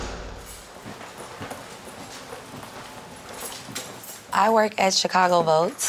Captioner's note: footsteps click on floor